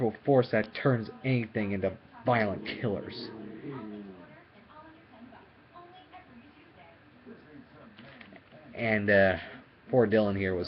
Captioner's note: dog Growling This Time